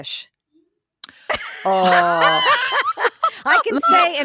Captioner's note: all laugh